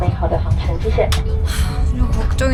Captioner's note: sigh